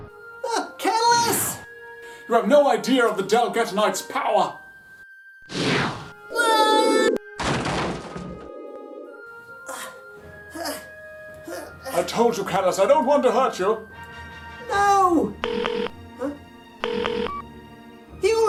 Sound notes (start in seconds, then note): 7.3 crash; 16.8 phone rings